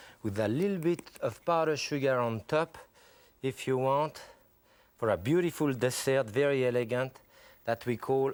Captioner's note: none